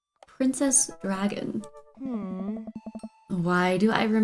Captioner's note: groans